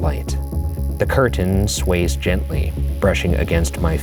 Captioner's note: light bulb buzzing